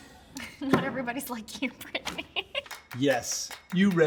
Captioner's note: laughs